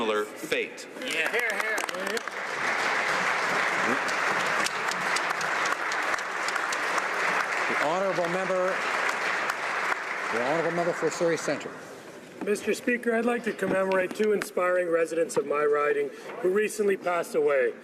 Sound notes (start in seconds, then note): 5.0 some Applause